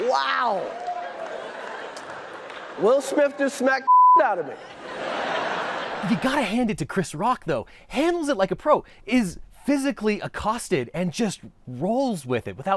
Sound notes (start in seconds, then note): 1.2 audience chuckles; 3.8 beep; 4.5 audience chuckles